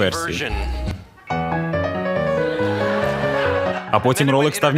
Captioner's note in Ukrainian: Сміх